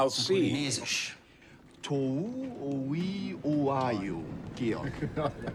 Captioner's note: speaking Polynesian; laughs